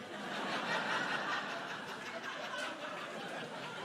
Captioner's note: crowd laughing